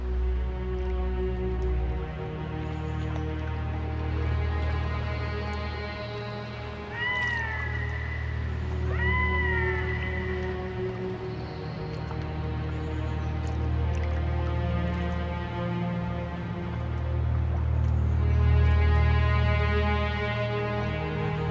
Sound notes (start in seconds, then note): 0.3 ominous music; 6.9 bird squawking; 13.7 water sloshing